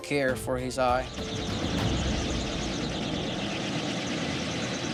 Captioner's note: helicopter whirs